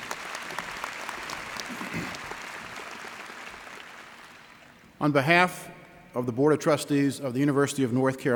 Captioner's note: applause